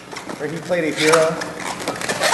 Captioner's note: noise of balloons